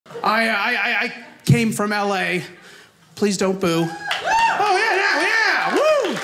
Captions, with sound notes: I came from LA. Please don't boo. (audience cheers) Oh yeah, yeah. Woo!